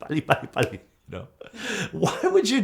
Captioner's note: laughs